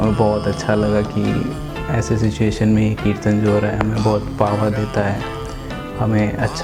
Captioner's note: congregational chanting of God's names